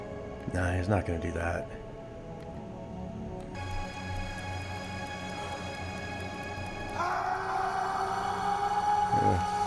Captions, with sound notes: Nah, he's not gonna do that. (soft music) (man screams)